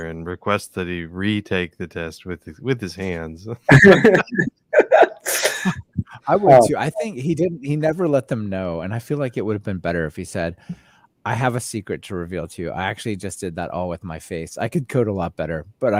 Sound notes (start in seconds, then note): 3.7 laughing